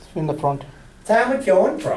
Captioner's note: voiceover